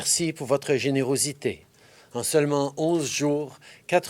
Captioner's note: speaking french